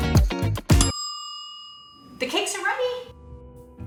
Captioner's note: timer ding